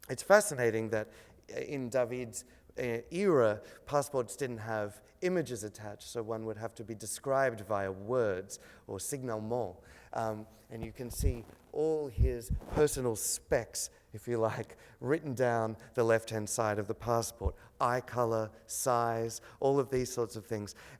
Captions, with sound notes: It's fascinating that in David's era, passports didn't have images attached, so one would have to be described via words, or (speaks foreign language). And you can see all his personal specs, if you like, written down the left-hand side of the passport, eye color, size, all of these sorts of things.